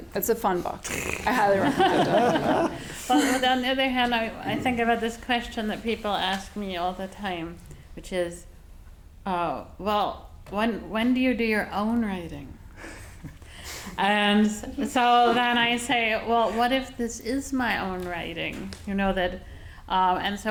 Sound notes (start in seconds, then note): 1.2 audience laughing